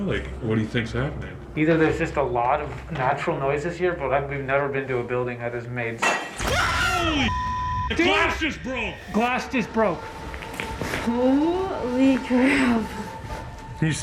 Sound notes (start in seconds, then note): 6.1 glass breaking